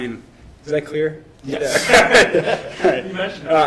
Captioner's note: laughs